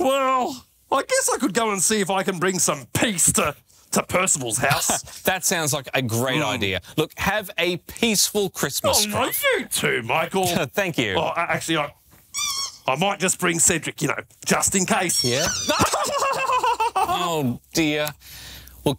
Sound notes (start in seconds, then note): 12.2 rubber chicken squeaking; 15.2 Scruff laughing